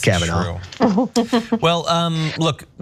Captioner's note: laugh